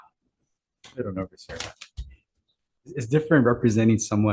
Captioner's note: faintly speaking